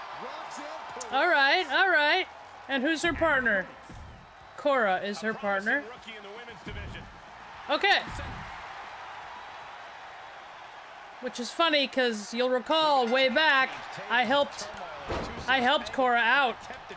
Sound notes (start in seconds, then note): 0.0 applause; 8.4 applause